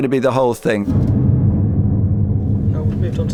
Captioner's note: rumbling